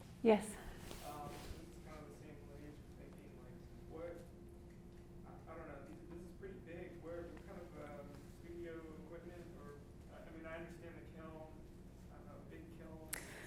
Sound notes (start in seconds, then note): 3.4 speaks faintly